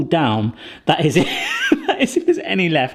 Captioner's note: laughs